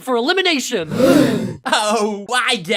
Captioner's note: everyone gasps